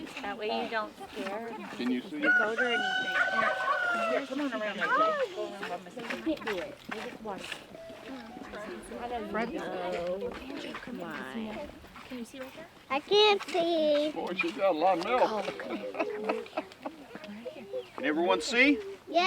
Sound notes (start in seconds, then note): 2.2 cock crows; 2.2 turkeys gobbling